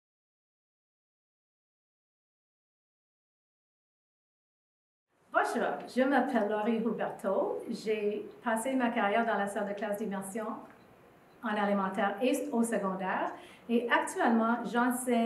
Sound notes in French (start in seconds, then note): 0.5 silence